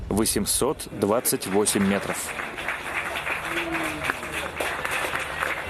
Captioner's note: applause